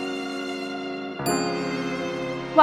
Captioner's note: buzzer dings